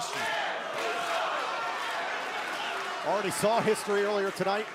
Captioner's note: crowd cheering